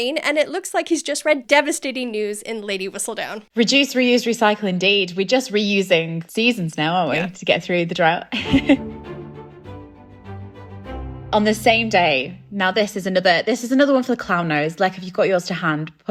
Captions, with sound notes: And it looks like he's just read devastating news in Lady Whistledown. - Reduce, reuse, recycle indeed. We're just reusing seasons now, aren't we, to get through the drought. (laughing) (upbeat music) - On the same day, now this is another one for the clown nose, Lech, if you've got yours to hand,